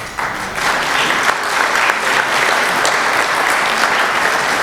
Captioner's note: applause